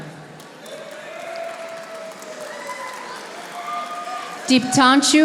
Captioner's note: audience applauding